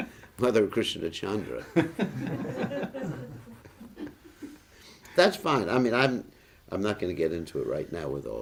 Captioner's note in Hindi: हँसी